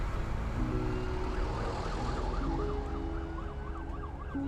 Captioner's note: sirens blaring